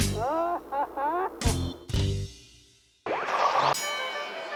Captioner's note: driver laughing